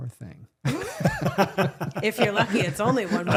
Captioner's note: laughing